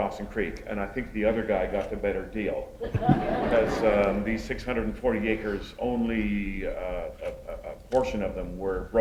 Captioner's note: laughter